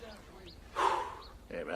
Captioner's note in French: Soupir